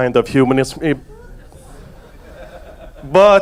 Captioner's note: audience laughs